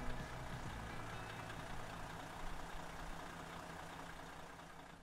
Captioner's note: car engine roaring